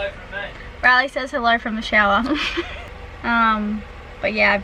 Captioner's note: laughs